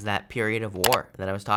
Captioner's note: button clicks